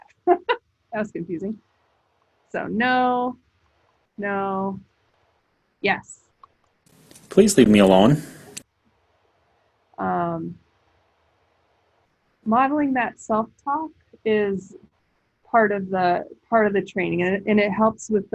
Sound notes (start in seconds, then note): 6.5 iPad voice